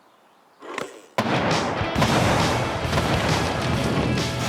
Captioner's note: dynamite exploding